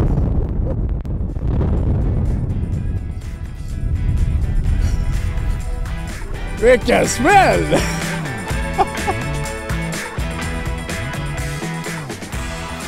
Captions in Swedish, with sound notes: Vilken smäll! [Skratt]